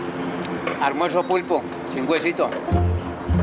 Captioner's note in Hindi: स्पैनिश बोलते हुए